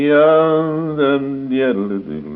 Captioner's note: humming